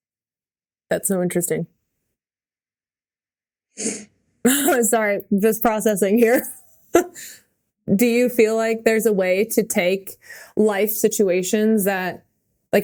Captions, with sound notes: - That's so interesting. (Mikaela chuckling) Sorry, I'm just processing here. (Mikaela laughing) Do you feel like there's a way to take life situations that,